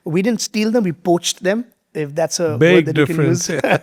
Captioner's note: both laughing